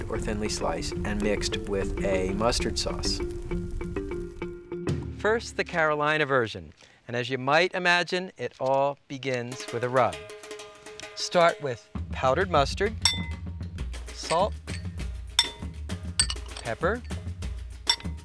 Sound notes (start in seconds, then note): 13.0 glass bowl clanking; 16.1 glass bowl clanking